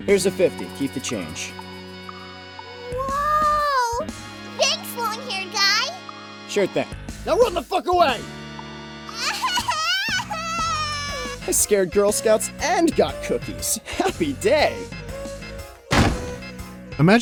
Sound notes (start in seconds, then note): 9.2 crying; 15.9 slam